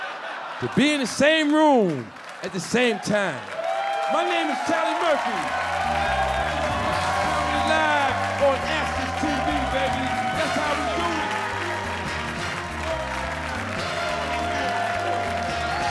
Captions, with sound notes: to be in the same room at the same time. (audience clapping and cheering) My name is Charlie Murphy. (upbeat jazz music begins) We'll be live on AXS TV, baby. That's how we do. (audience clapping and cheering)